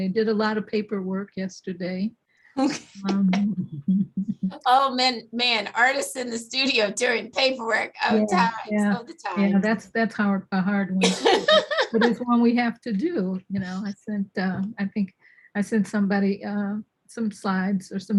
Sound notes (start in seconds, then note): 2.7 laughs